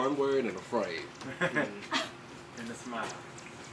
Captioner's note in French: gloussements